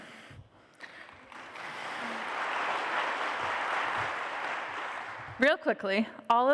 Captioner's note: applause